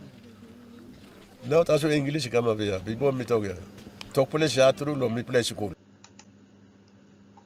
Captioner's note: speaking Kere; speaking Tok Pisin